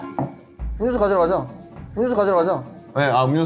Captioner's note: tap tap